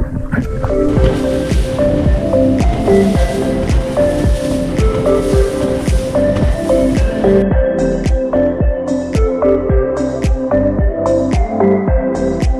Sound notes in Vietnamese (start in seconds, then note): 9.8 speedboat